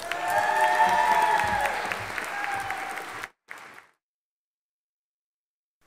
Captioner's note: audience applauding and cheering